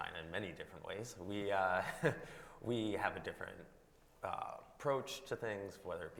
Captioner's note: chuckles